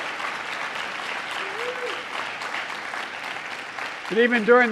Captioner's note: applause